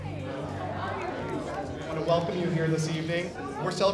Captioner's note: background talking